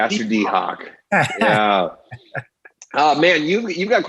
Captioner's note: laughs